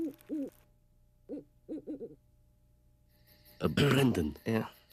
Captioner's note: owl hoots